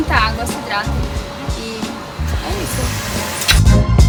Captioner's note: kiss sound